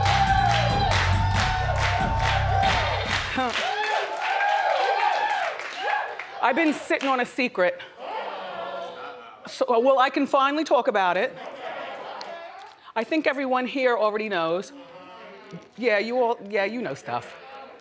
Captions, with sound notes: I've been sitting on a secret. (audience gasps) Uh-oh! Well, I can finally talk about it. (audience chatters) I think everyone here already knows. (audience murmurs in agreement) Yeah, you all, yeah, you know, stuff.